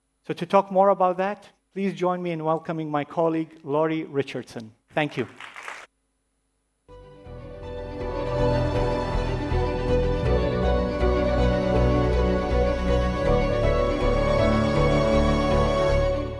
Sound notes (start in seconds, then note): 5.2 applause